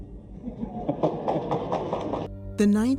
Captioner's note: crowd laughing